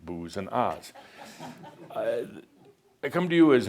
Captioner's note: a couple of chuckles